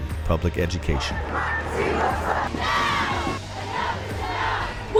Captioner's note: crowd chants